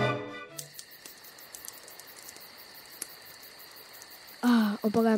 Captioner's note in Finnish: nuotio palaa, yön ääniä